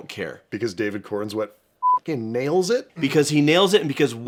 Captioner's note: beeping